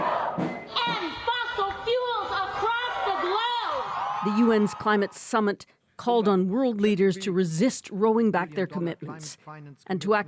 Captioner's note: chanting